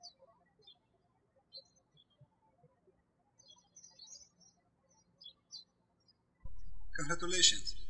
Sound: birds chirping

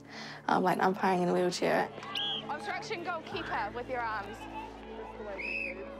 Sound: blows whistle

